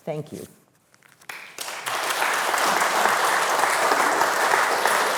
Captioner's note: attendees clapping